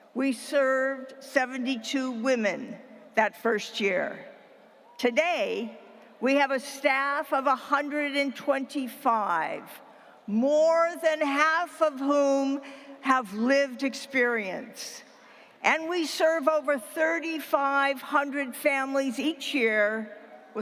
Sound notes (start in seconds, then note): none